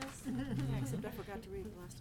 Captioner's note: laughing